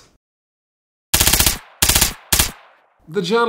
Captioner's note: machine gun noise